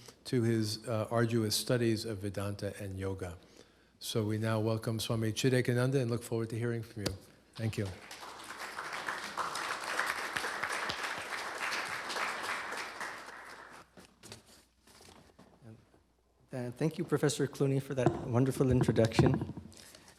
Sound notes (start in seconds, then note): 7.6 applause